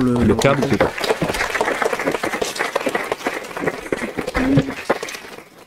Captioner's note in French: Applaudissements